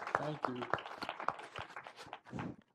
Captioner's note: applause